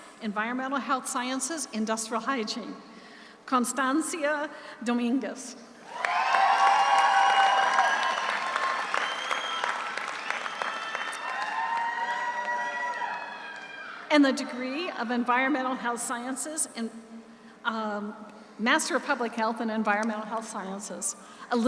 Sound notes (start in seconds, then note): 5.8 audience cheers; 5.9 audience applauds